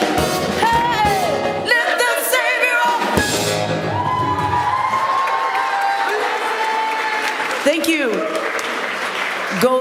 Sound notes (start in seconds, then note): 4.5 applause